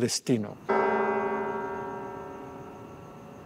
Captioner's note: church bells ring